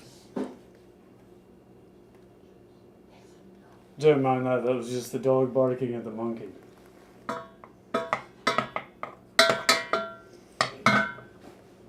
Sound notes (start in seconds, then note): 7.1 stirring sounds